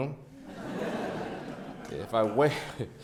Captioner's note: audience laughs